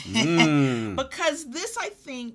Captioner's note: laughs